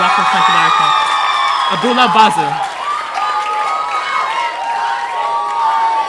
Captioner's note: audience cheering